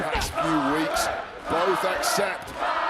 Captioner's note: crowd cheers